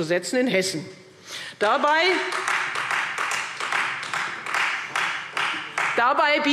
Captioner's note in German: Beifall Freie Demokraten